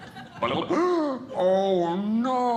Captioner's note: audience Laughing; gasps